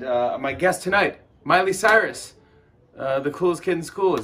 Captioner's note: clap